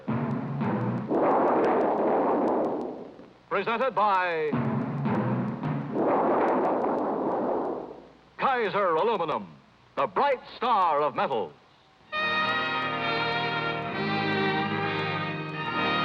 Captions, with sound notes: (drums pounding) (aluminum thundering) Presented by (drums pounding) (aluminum thundering) Kaiser Aluminum, the bright star of metal. (dramatic orchestra music)